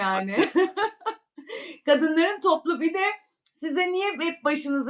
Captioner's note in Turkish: kahkaha